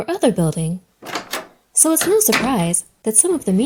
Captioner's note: door closes